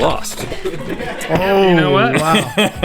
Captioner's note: laughing